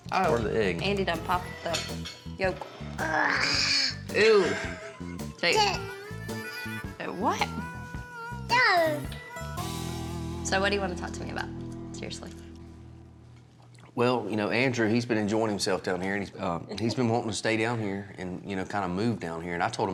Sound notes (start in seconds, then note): 3.0 gasping; 4.2 laughs